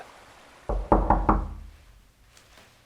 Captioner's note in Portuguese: Batidas na porta